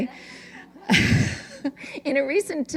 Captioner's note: laughter